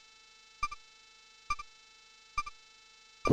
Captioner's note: silence